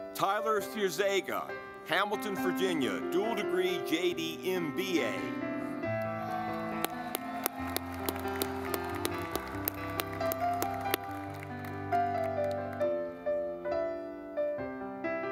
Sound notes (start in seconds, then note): 5.5 gentle music; 6.0 audience clapping